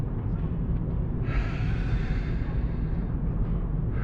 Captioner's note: inhales deeply